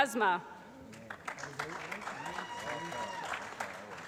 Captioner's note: applause